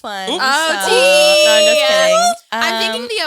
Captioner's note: all yelling